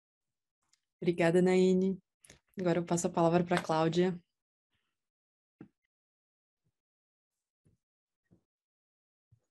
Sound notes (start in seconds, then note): 1.2 speaking in Portuguese